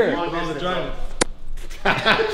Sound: whack; laughs

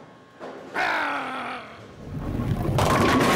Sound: growls

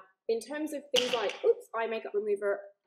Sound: bottle clatters

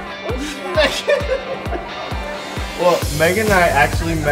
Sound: laughing

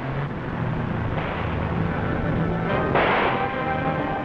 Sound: engine revving; suspenseful music; gun firing

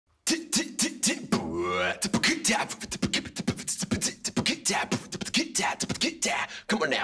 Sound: beatboxing

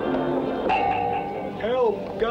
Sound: boing!

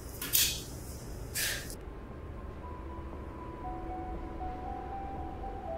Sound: Kate scoffs; mysterious music

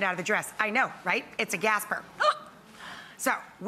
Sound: gasps

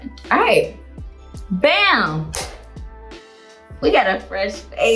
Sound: claps

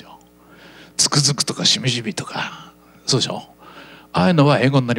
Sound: feelingly

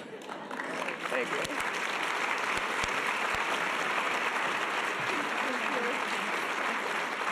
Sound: audience applause

